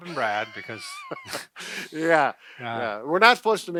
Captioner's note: laughing